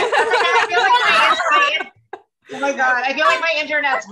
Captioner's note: clamoring